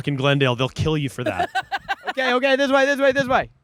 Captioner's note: laughing